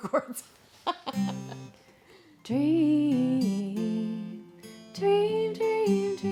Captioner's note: laughing